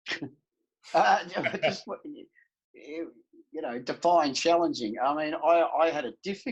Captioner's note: laughs